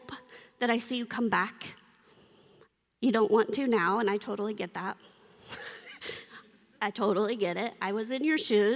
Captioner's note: laughter